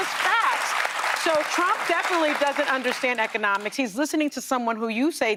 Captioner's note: applause